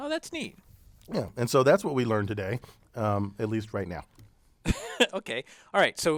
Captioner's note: laugh